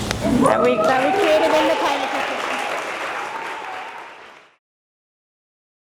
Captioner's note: audience applauds